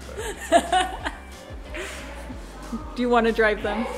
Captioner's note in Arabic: يضحك